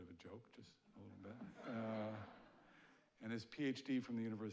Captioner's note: audience laughing